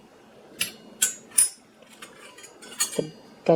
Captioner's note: sound of flatware clinking